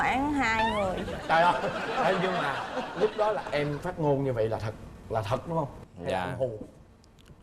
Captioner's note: laughing